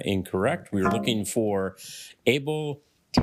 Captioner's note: failure chime